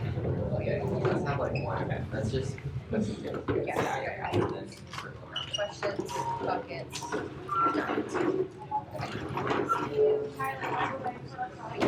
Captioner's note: group working chatter